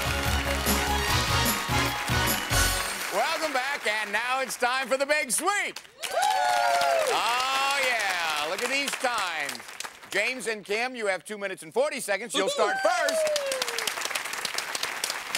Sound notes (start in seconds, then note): 5.9 cheering